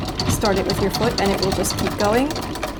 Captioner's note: lever clattering